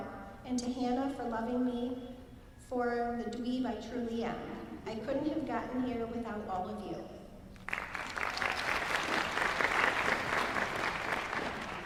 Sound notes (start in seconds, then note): 7.6 applause